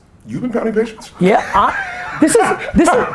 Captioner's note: laughs